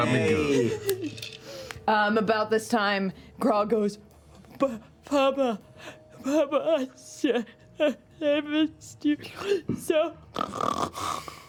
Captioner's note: snores